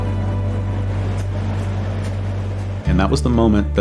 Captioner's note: fan whirring